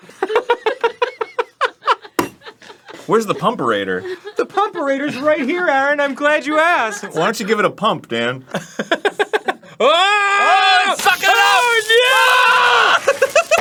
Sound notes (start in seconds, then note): 8.5 laughing; 9.7 yelling; 10.5 both yelling